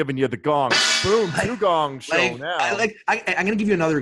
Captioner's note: gong clangs